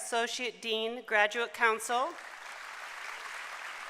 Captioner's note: applause